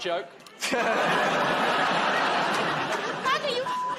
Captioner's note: laughter